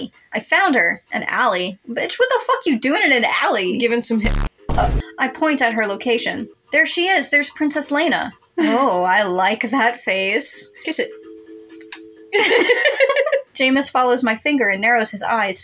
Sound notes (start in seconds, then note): 4.7 Vine Boom; 8.6 chuckle